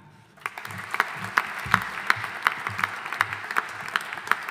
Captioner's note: audience applauding